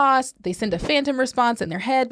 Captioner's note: whooshing